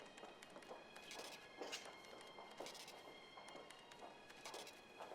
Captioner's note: feet pounding